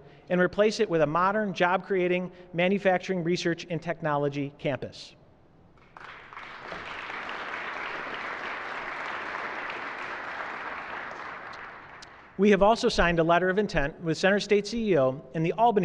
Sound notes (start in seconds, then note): 5.8 applause